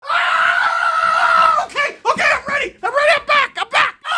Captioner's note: excited screaming